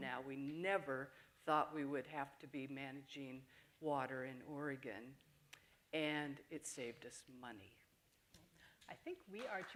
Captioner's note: appaluse